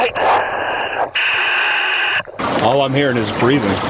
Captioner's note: breathing heavily